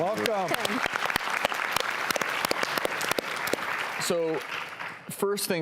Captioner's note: audience and doctors applauding